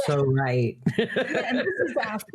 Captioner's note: laughing